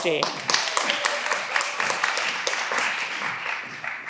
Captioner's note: all applauding